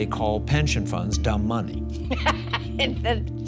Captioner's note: laughs